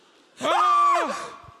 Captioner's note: screaming